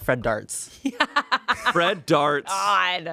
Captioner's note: Amanda laughs